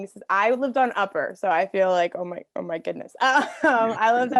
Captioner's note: chuckles